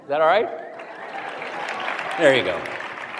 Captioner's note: applause